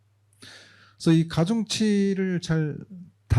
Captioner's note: speaking korean